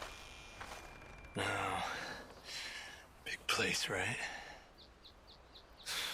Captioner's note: murmurs